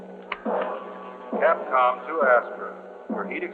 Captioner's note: man on PA